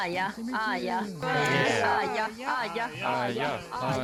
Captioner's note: chanting